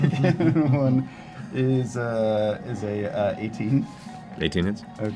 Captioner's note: laughing